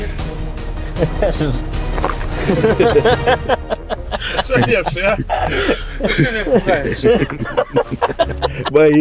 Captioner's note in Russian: смех